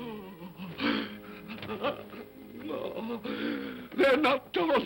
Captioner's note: Scrooge whimpers